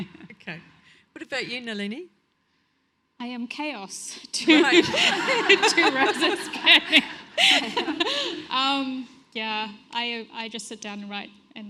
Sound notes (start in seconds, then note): 4.5 audience laughs; 4.6 laughs loudly